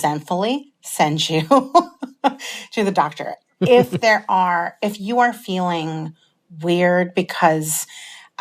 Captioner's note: laughter